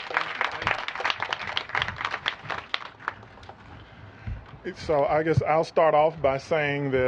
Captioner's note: applause